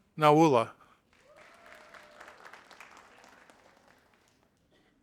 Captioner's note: audience applauding